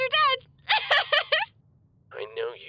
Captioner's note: laughs